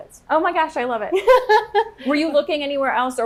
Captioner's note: laughing